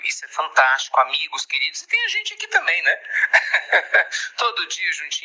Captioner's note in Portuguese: risos